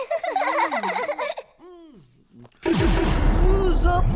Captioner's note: girls giggling